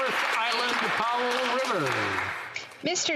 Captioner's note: applause